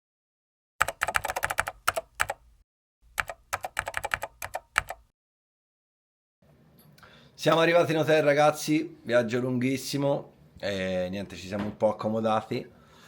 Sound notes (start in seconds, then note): 0.7 keyboard sound